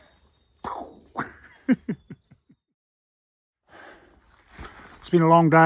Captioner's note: making gun shot effects